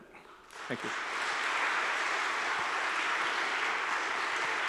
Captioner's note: audience applauds